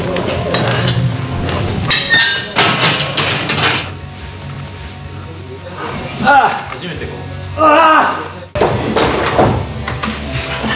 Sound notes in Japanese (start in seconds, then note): 6.5 掛け声